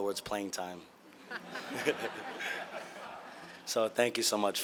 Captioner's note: audience laughing